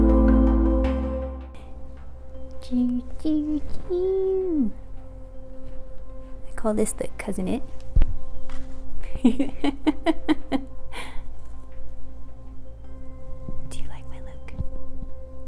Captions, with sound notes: I call this that "Cousin It". *laughing* Do you like my look??